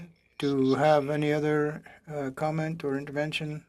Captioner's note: speaking French